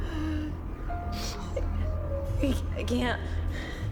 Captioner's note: sniffles